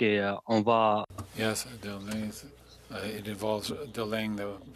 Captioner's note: speaking FRENCH